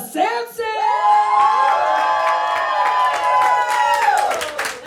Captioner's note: audience cheers; audience applauds